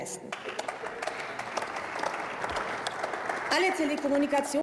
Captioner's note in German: Beifall